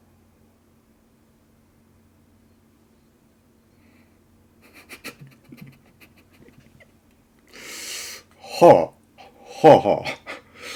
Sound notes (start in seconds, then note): 4.7 laughing